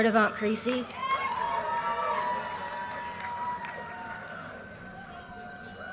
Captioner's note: audience cheers and applause